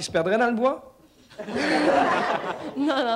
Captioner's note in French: rires